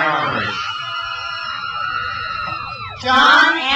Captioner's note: crowd cheers